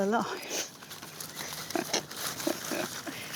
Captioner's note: laughs